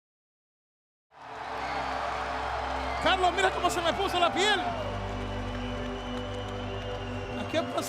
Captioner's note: applause